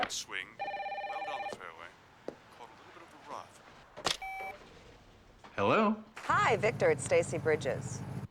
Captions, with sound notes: (phone ringing) -Great swing, it landed on the fairway. Caught a little bit of the rough. - Hello? - Hi, Victor, it's Stacy Bridges.